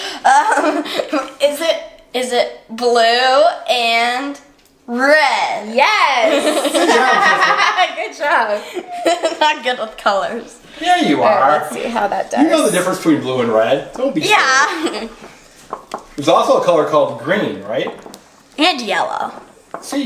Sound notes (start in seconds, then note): 0.2 laughing; 6.2 women laughing; 14.6 laughing